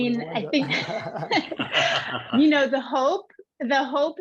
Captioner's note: all laugh